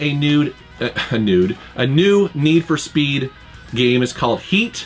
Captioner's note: laughs